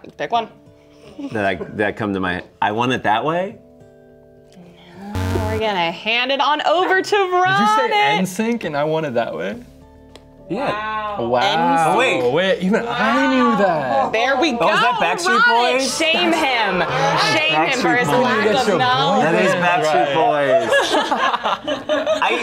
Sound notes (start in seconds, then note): 5.1 buzzer sounds